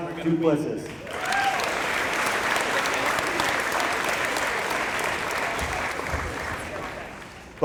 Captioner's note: applause